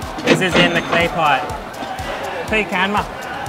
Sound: cash register ringing

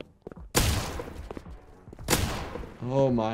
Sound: gunshot exploding

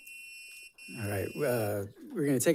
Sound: timer sounding

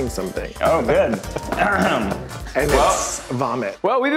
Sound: laughing

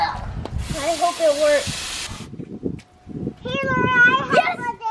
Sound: water fizzes

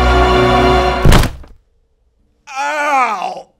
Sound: body thudding

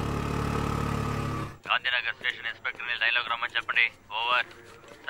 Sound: sounds From Walkie-Talkie

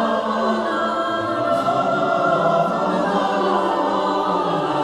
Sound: none

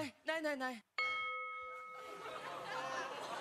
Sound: ding

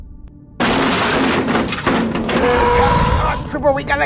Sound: dinosaur crashes on vehicle

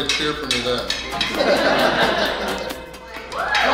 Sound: hahaha

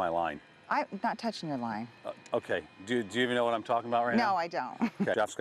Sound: laughter

